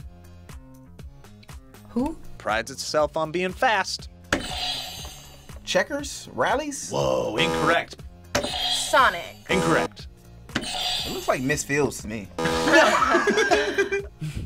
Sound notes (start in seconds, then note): 4.4 buzzer rings; 7.4 buzzer; 7.4 buzzer rings; 9.5 buzzer; 12.4 buzzer; 12.4 buzzer rings; 12.4 group laughs